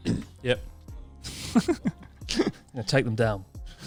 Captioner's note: chuckling quietly